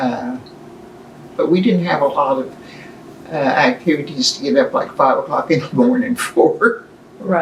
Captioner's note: laughs